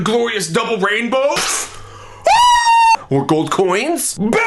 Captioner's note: screaming